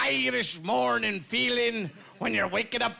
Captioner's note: with irish accent